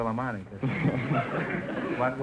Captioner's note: audience laughter